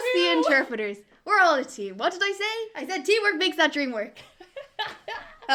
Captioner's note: laughing